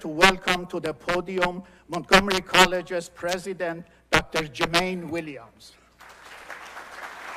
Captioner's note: applause